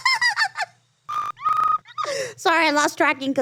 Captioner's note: computer glitching; Ironmouse laughing